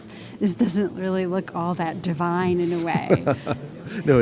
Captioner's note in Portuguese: risos